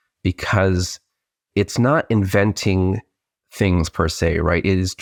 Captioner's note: none